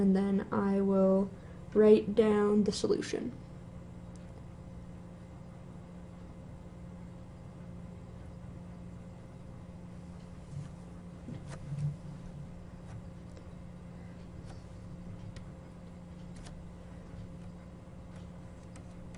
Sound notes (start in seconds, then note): 4.3 no speech